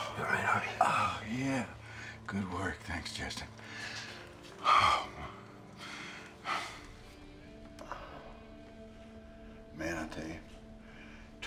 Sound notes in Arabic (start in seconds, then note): 4.5 تنهد